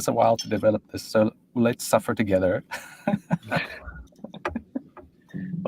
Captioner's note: laughs